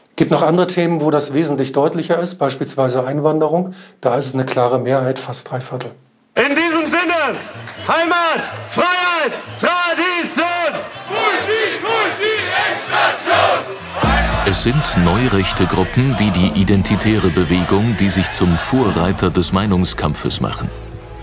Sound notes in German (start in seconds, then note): 6.3 rhythmisch; 10.5 Sprechchor, rhythmisch